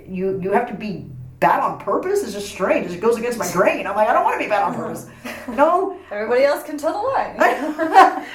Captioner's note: all laugh